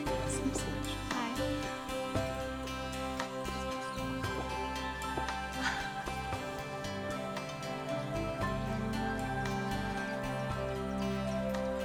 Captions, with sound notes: -Miss Lisa Bentron. -Hi. [calm music] [birds chirping]